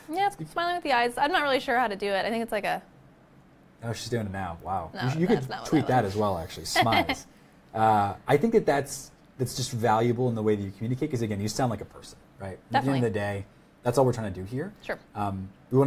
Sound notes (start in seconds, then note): 6.6 laughs